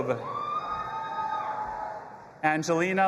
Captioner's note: audience applauding and cheering